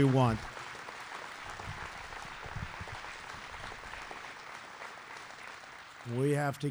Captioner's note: applause